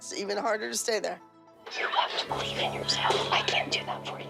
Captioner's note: whispers